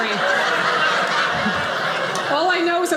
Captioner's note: audience laughing